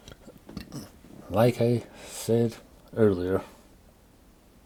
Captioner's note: cough